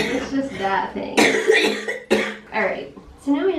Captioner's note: coughing